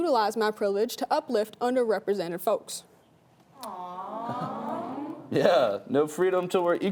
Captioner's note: awww